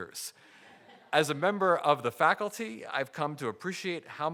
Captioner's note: audience laughing